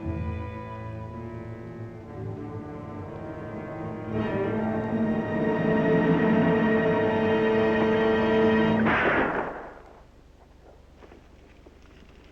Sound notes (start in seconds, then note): 8.8 gun Shot